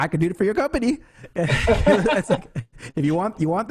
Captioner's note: laughs